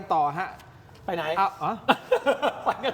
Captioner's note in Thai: เสียงหัวเราะ